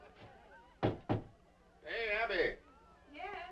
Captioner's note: door knocking